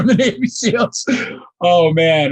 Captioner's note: laughing